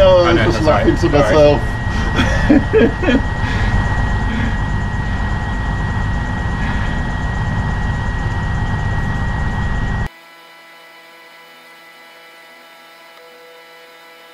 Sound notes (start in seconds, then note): 4.3 laughs; 10.1 audio buzzing